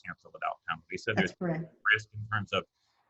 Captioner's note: audio glitches